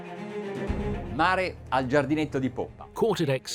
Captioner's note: speaking in a foreign language